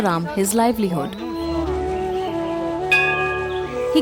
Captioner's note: gentle flute music; bell chimes